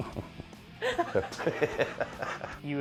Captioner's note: chuckles; laughter